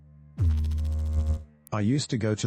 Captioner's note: electrical noise